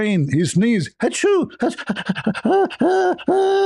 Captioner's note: ketawa